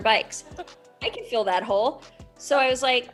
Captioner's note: laughs